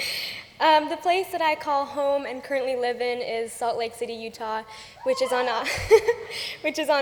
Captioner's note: cheers